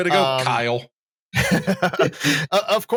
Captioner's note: laughter